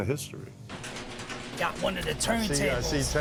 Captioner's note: door clanking